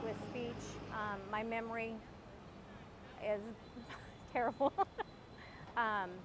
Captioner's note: laughs